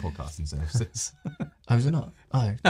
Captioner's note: both laugh